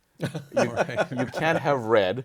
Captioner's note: laughs